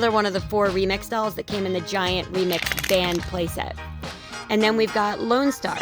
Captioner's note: crumpling